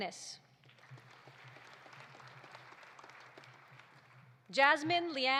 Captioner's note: audience applauding